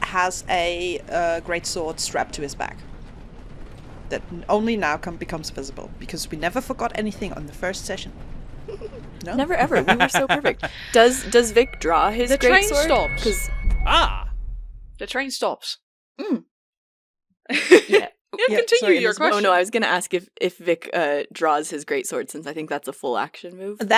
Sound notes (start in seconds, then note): 8.7 giggles; 9.2 laughs; 18.4 laughs